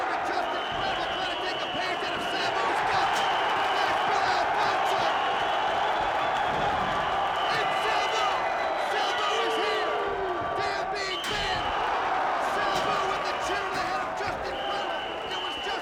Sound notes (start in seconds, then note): 3.2 whistle blowing; 6.0 crowd cheers